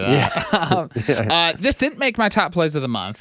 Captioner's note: laughing